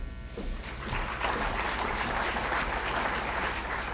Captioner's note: applause